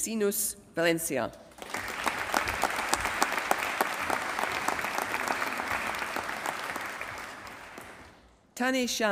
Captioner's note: applause